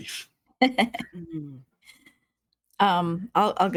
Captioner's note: giggling